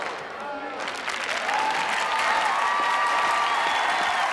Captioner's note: clapping and cheering